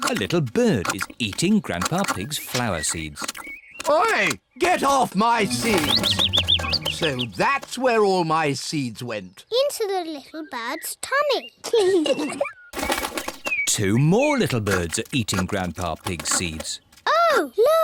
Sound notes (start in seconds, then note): 6.1 bird tweets; 11.7 both giggle